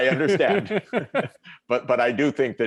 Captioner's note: laughter